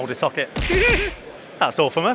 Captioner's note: laughing